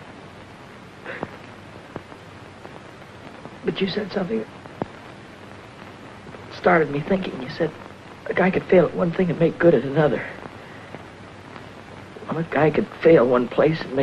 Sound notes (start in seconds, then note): none